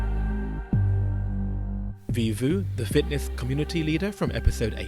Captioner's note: voiceover